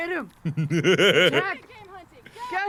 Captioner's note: giggles